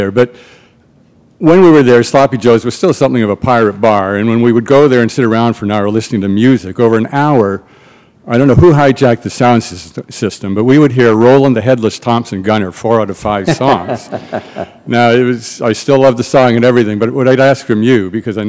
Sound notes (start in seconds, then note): 13.6 chuckle